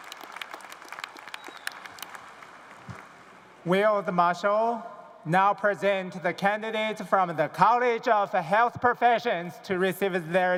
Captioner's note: cheers and applause